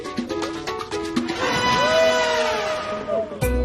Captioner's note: bright music continues; water splashing; upbeat music playing